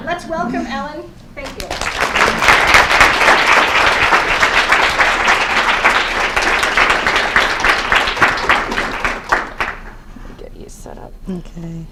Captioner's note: applause